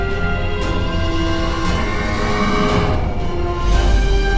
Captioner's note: border whooshing